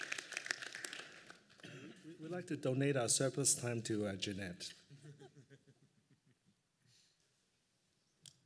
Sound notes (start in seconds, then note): 4.9 laughter